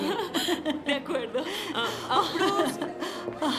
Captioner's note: laughing